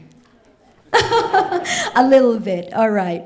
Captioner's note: laughs